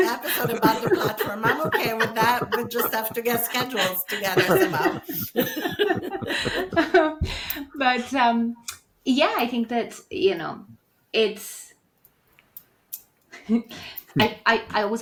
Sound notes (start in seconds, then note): 6.2 all laugh